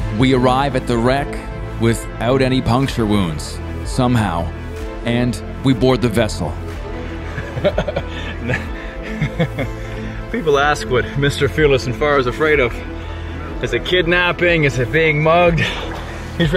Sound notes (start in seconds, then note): 7.3 laughing